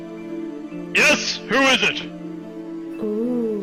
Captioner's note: Altered Deep Krel Voice